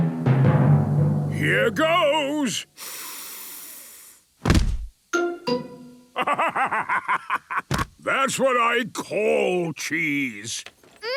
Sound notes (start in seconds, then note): 0.0 dramatic drumming music; 2.8 sniffs; 6.2 bursting laughter